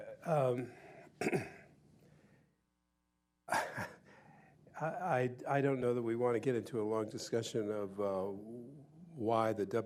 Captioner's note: chuckles